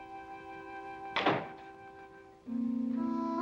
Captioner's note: door closing